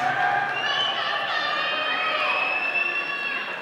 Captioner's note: all cheering